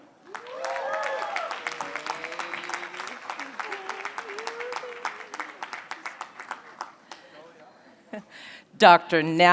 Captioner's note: applause